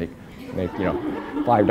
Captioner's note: laughter